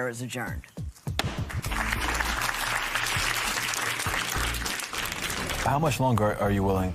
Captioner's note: applause